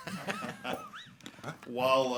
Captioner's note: group laughing